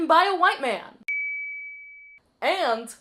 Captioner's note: ding